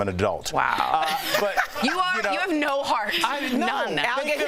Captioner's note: laughter